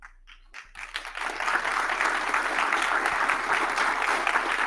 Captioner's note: audience applauding